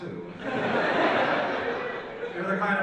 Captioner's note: audience laughs